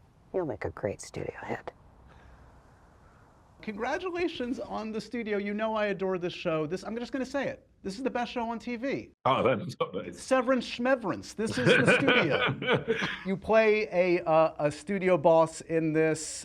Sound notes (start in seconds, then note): 11.4 laughs